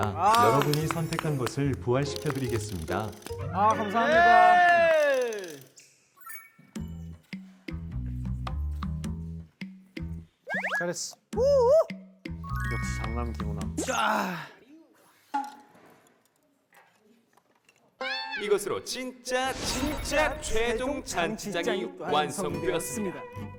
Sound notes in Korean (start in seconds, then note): 14.5 후훗